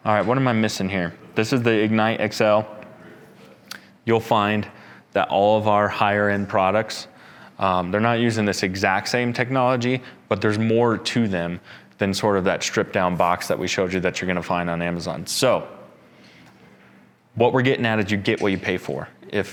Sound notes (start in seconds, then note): none